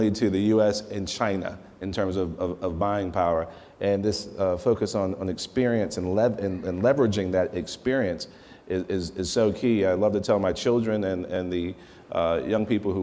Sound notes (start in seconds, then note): none